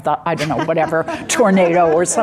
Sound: audience laughing

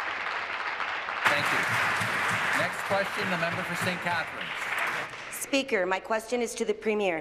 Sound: some Applause

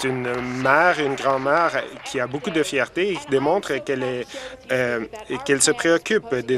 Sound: applause

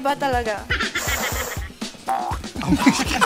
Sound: sniffs; laughter

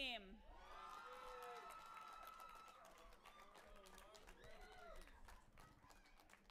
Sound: audience applauding and cheering

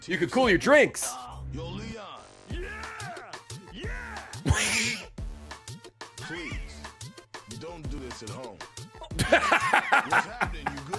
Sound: laughs

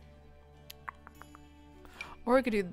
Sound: clicking tongue

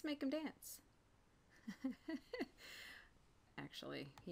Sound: laughing

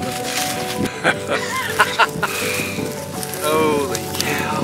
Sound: laughs

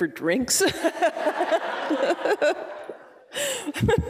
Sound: laughing

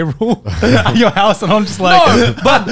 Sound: chuckling

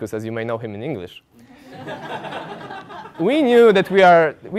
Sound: laugh

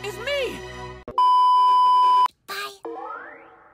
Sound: beep

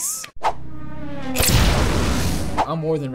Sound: revving; boom!

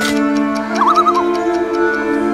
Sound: loon calls

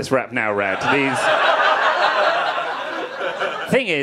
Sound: audience laughing

